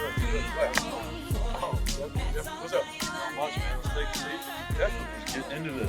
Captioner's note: indistinct chatter